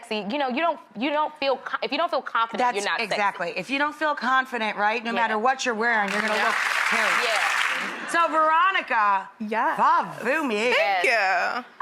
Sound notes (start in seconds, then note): 6.0 audience applauds